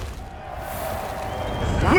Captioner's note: crowd cheers